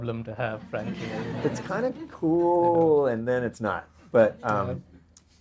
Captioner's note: audience laughter